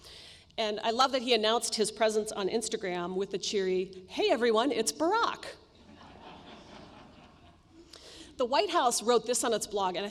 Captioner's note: laughter